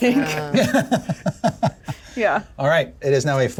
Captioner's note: laughs